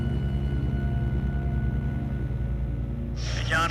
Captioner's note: plane hums